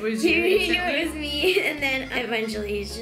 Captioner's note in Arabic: يضحك